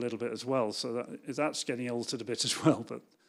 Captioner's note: laughs